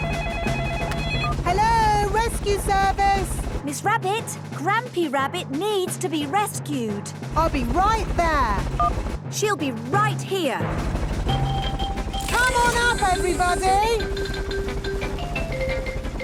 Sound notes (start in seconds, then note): 0.0 phone ringing; 8.5 phone beeps; 10.7 distant helicopter noise